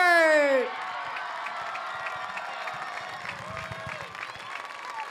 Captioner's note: audience cheers